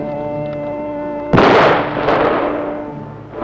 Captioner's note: explosion